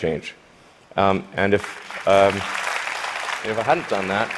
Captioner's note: applause